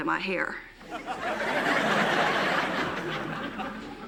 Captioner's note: laughter